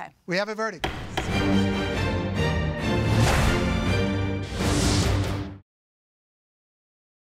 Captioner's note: gavel banging; dramatic music